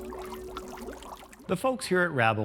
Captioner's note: bubbles